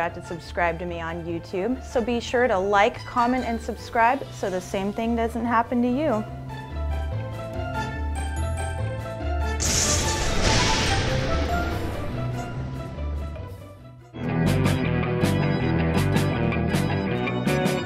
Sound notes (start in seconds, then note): 9.6 thunder booming; 14.3 upbeat mysterious music